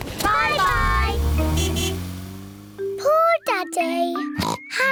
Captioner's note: toots horn; oinks